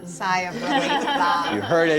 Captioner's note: laughter